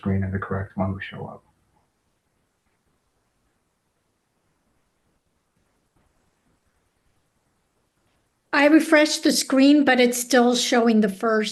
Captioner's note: pause